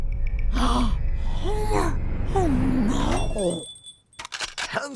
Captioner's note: gasps